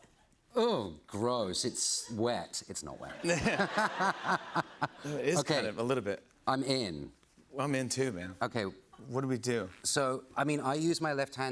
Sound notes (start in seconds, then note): 3.1 laughter